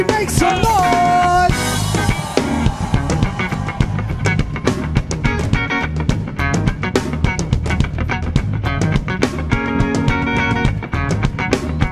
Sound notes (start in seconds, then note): 2.5 audience cheering; 4.3 guitar music